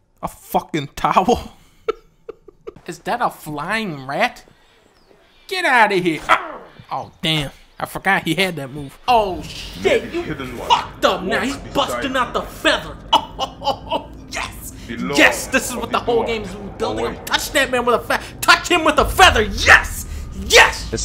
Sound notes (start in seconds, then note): 1.8 cracking up; 6.3 grunts; 11.2 chuckling